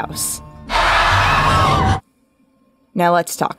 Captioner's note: more screaming